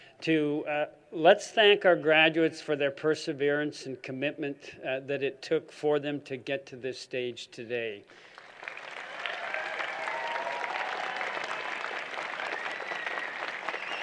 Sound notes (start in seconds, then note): 8.2 applause